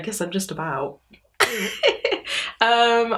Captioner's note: laughs